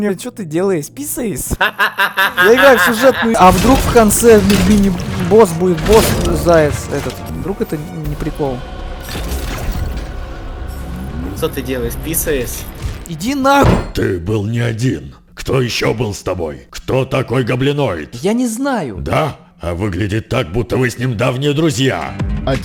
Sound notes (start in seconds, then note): 14.2 punches table